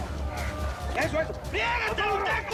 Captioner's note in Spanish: Gritan al unísono